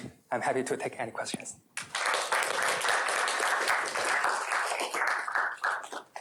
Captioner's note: applause